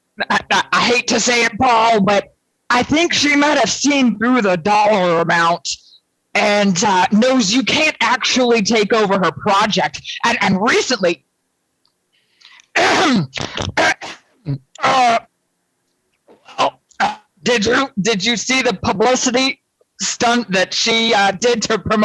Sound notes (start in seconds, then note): 15.1 coughs